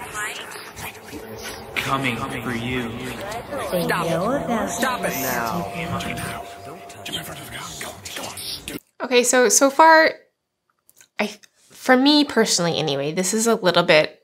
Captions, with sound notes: coming for you. Stop it. Stop it now. (murmurs) Okay, so far, for me personally anyway, this is a little bit